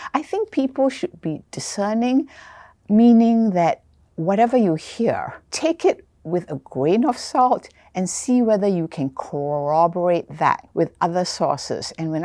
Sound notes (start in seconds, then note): none